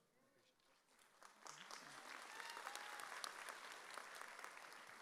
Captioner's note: audience applauds